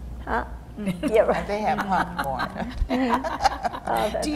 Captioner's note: laughing